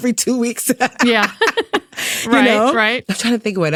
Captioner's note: both laughing